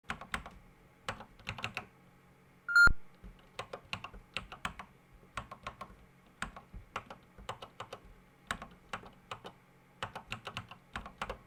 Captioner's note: typing on a C64 keyboard